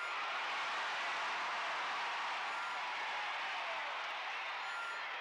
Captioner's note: crowd cheers